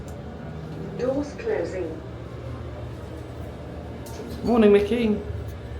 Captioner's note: automated Voice